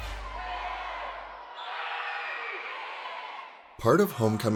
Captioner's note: crowd